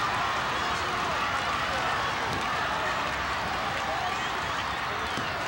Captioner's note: audience cheering continues; audience cheering